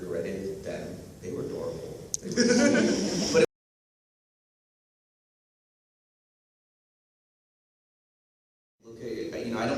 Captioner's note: laughter